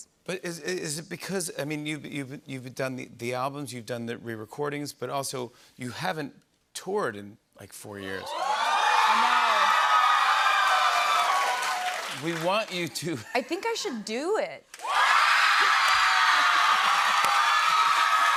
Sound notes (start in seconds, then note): 8.2 cheers and applause; 14.7 cheers and applause